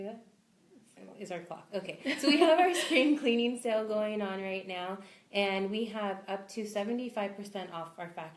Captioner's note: both laugh